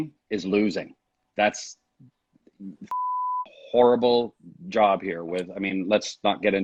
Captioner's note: beep